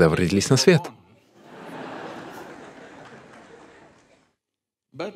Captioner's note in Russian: Смех